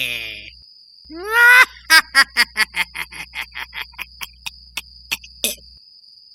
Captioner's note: evil laugh